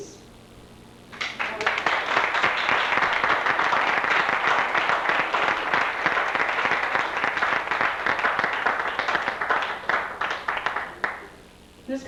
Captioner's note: applause